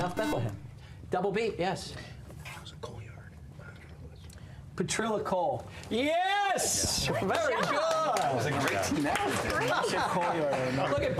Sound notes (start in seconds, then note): 1.5 whispering; 7.6 mixed chatter